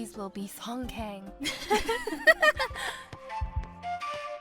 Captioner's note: sophie & chloe giggles